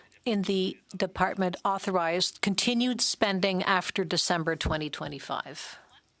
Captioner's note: speaking French